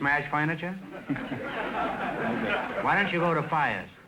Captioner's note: audience laughter